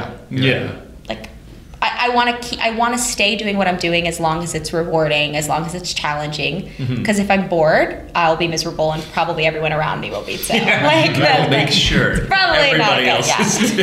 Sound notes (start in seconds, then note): 10.3 laughter; 13.2 laughter